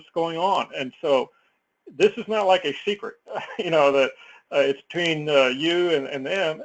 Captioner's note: laugh